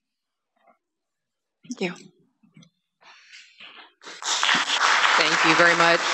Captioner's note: applause